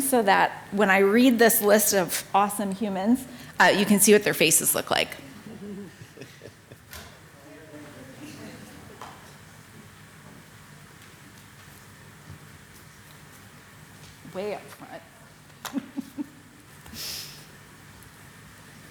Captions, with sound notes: so that when I read this list of awesome humans, you can see what their faces look like. (faint chattering) Way up front. (laughing)